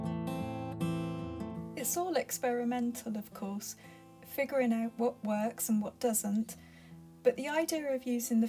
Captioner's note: voiceover